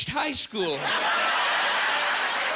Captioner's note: laughing and applauding